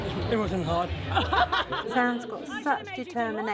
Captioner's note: ladies laugh